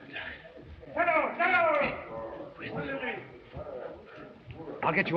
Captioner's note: man shouting